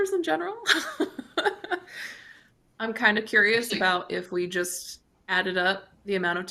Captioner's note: chuckles